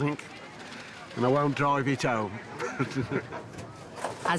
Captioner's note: laughs